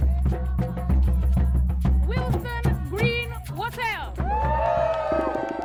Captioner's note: cheering & applause